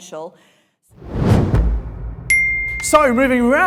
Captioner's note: air whooshing